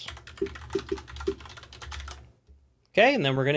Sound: keyboard clacking

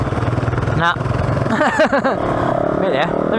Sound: laughs

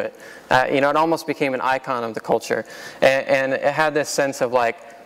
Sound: none

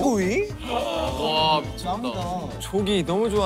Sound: gasping

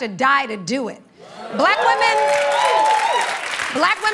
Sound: cheering and applause

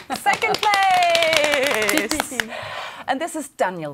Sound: clapping on legs

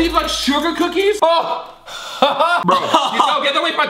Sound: laughing

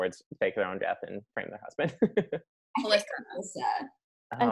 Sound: laughing

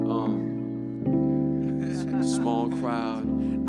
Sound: laughing

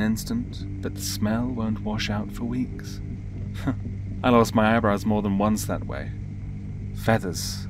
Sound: laughs

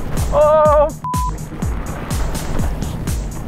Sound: beep

